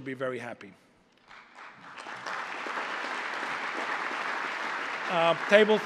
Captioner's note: applause